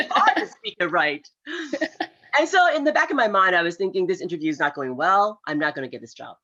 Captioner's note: laughs